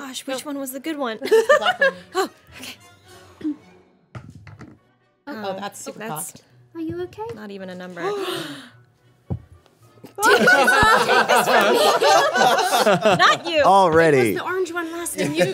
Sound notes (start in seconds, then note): 1.3 laughs; 8.0 girls gasping; 10.2 all laughing